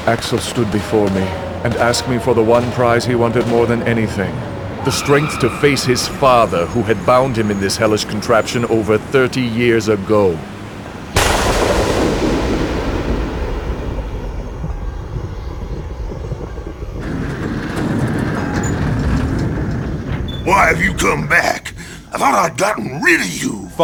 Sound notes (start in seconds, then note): 11.2 thunder; 17.1 barn doors opening